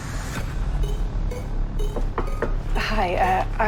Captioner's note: knocking on door